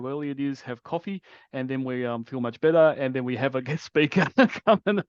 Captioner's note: laughs